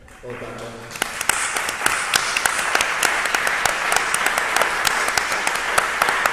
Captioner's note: applause